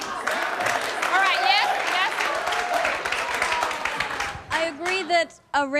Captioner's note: applause